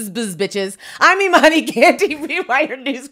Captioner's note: laughs